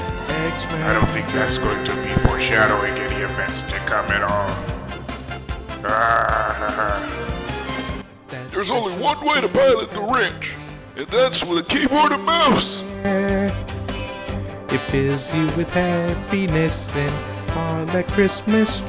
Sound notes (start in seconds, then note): 8.5 laughs